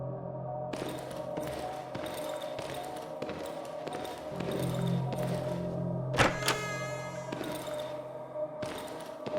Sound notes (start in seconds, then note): 1.8 footsteps thudding; 6.1 door creaks